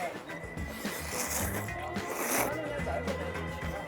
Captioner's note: slurping